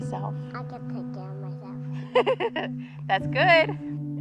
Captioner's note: Ally giggling